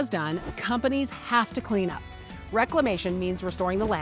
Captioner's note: text whooshing